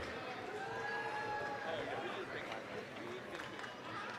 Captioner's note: applause, cheering